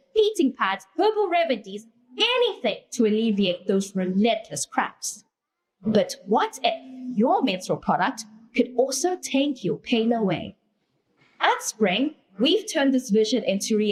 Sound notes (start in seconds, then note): none